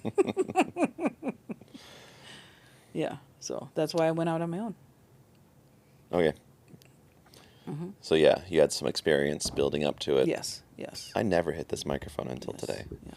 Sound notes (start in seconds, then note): 2.3 laughing